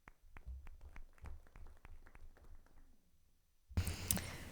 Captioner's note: audience applauding